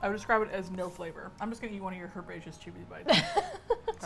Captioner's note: laughs